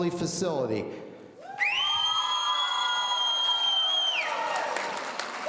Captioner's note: whistling and cheering